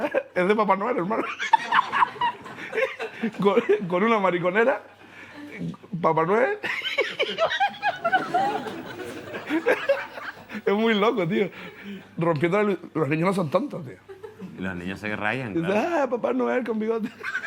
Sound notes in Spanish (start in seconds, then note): 6.6 Risas